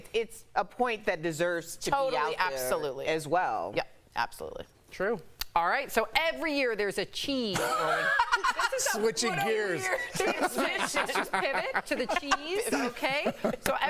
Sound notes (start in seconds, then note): 4.3 laughter